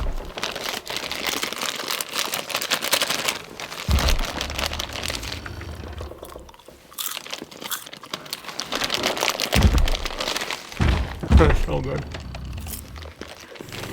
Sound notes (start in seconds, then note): 0.3 crinkly-crunchaly; 6.9 smack chew crunch MOUTH NOISES